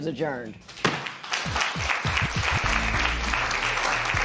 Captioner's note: applause